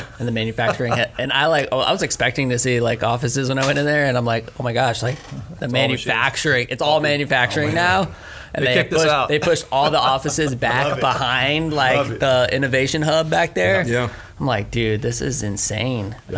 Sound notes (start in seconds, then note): 9.2 laughs